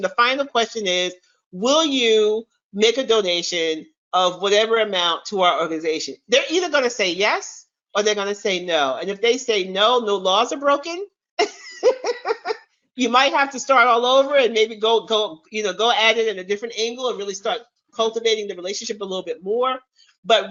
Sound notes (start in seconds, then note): 11.4 chuckles